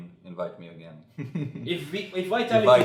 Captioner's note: laughs